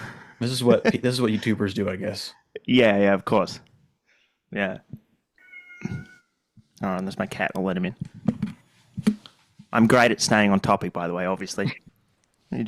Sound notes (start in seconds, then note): 5.4 meow